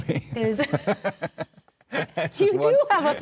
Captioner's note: laughing